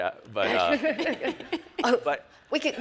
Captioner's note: all laugh